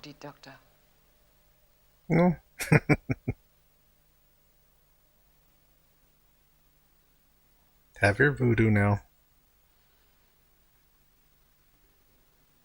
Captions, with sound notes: No. [Chuckling] Have your voodoo now.